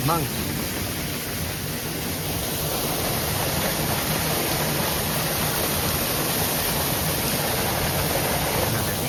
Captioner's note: waterfall ambience